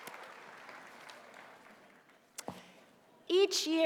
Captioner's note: applause